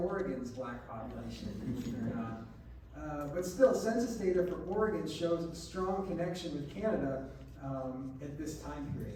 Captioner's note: laughter